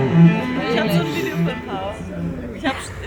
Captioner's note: speaking in foreign language